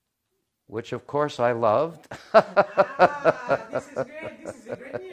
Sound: Rires

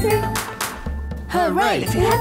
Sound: clapping

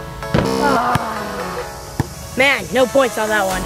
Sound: buzzing

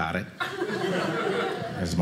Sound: audience laughing

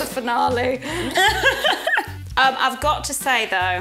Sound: laughs

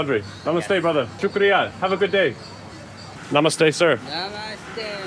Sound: speaking in foreign language

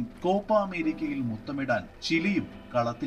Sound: audiobook playing

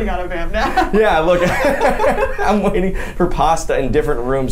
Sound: laughs

